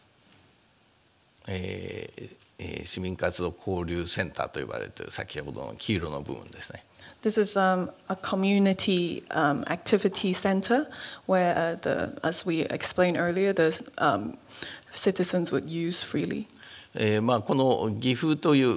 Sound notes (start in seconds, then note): 1.3 speaking japanese; 16.8 speaking japanese